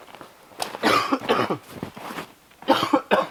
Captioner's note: coughs